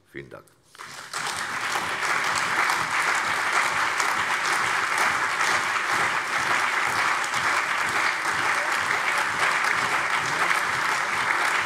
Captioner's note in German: Anhaltender lebhafter allgemeiner Beifall